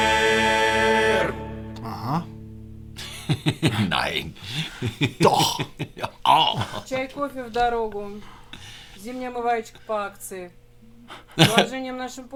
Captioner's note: laughter